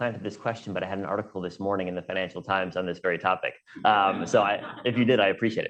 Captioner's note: laughter